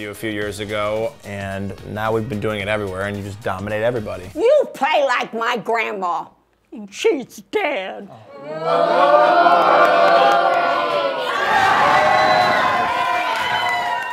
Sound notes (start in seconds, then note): 8.2 crowd; 10.8 crowd cheering